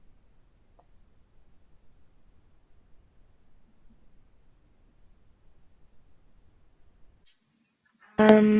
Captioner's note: silence